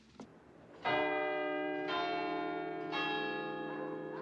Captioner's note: CLOCK CHIMlNG